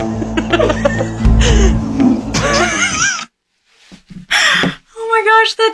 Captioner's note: laughing; patient laughing